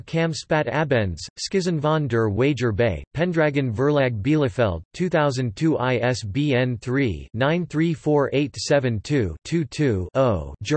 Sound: German

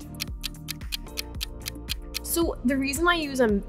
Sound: clock ticking

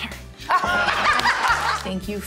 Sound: group laughs

